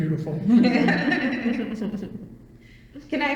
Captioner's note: all laugh